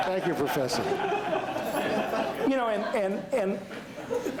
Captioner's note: laughter